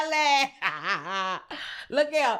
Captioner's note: laughs